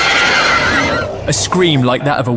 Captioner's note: the Creature Screams